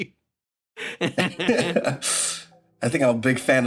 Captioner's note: laughs